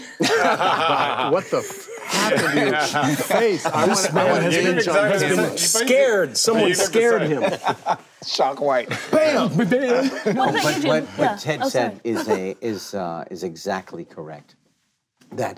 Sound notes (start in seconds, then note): 0.0 group laughing; 8.9 laughs